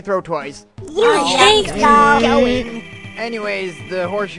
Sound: sounds of annoyance from team

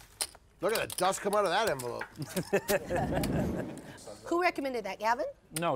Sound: laugh

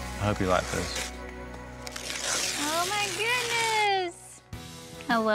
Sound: tearing wrapper off

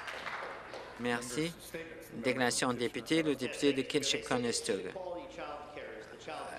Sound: speaking alternate language

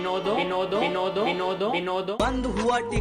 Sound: an echo of Binod

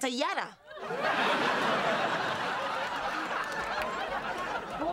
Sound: laughter

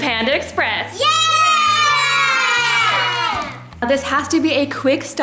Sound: cheering

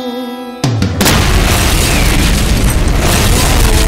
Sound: boom!

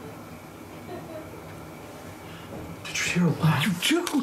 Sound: laughing

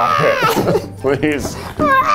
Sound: pretend cries louder

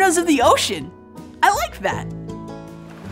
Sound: blow hole splash

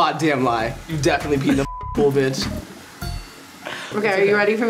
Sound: beep

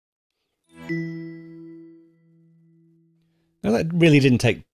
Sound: computer chiming

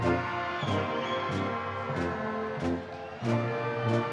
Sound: audience whistling; solemn band music continues

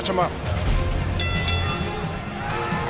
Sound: bell rings

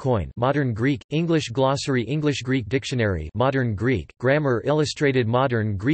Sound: modern Greek

